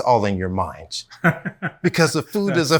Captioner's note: laughs